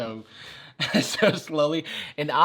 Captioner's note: laughs